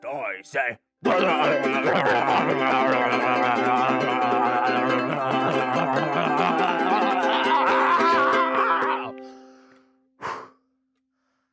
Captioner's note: silly noises